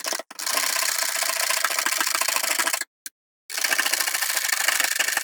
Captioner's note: satisfying aggressive whisking